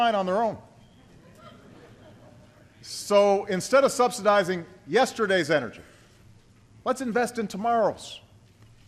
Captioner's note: laughter